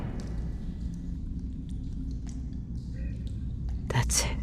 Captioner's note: drip, drip, drip of moisture falling into the echoing tank pool